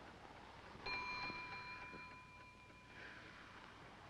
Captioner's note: bell dings